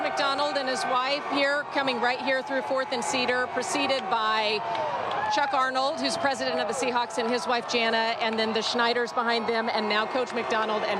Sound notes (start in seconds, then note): 0.0 applause